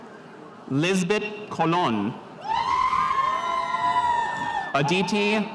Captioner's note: spectators cheering